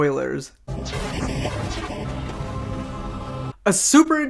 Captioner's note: computer Static